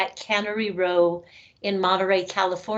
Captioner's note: none